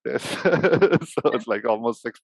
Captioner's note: laughs